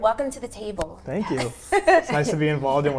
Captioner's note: chuckles